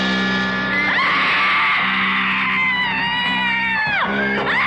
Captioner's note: rock music; screaming